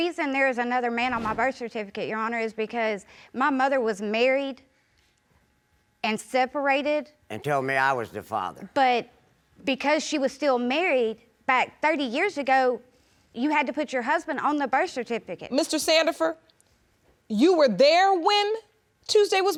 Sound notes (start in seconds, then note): none